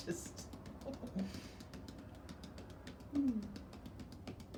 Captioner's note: hands tapping